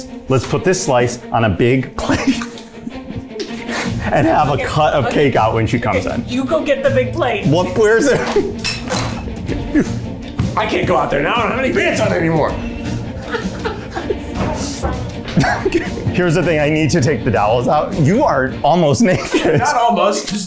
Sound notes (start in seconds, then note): 2.0 laughing; 7.9 all laughing; 13.0 laughing